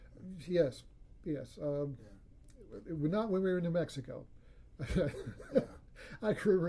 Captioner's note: laughs